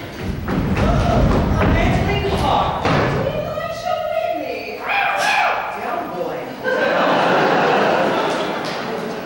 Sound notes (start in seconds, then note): 5.1 barks like a dog